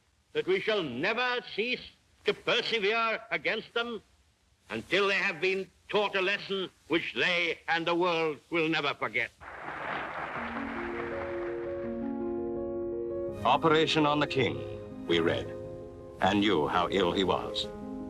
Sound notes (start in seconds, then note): 9.4 audience applauds; 10.4 gentle piano music